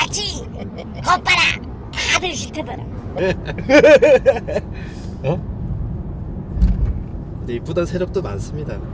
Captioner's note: wife's shout